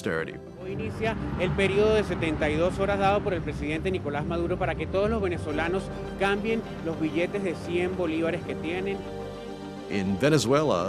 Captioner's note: speaking in a foreign language